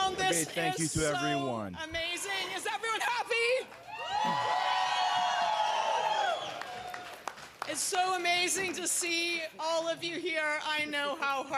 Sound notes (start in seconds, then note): 0.2 cheering; 4.7 speaking in French; 8.0 cheering